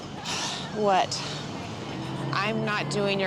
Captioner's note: sighs